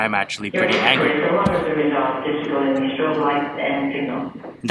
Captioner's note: airport Loud Speaker